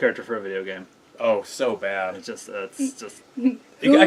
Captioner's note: trails off